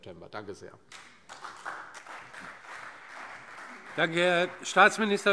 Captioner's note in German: Beifall CDU und BÜNDNIS 90/DIE GRÜNEN